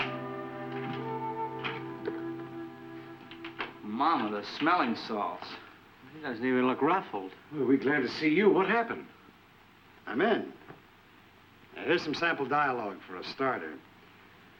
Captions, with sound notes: (door unlatching) (door latching) - Mama, the smelling salts. - He doesn't even look ruffled. Boy, are we glad to see you, what happened? - I'm in. Now here's some sample dialog for a starter.